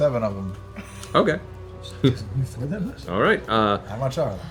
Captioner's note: laughs; laughs